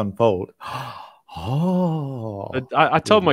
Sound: gasps

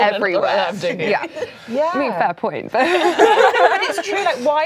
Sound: laughs

